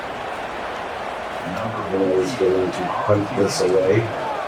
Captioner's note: crowd Noises